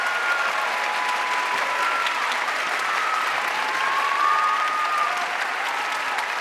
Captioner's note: audience cheering and applauding